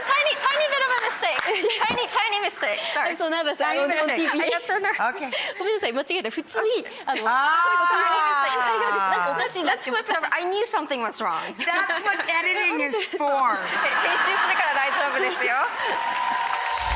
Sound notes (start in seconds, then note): 4.1 Marie Kondo speaking Japanese; 13.5 audience laughing; 15.0 translator speaking Japanese